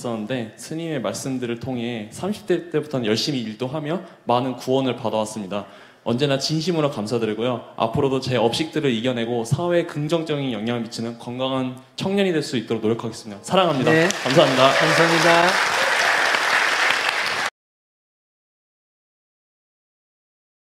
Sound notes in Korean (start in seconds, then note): 13.7 청중 박수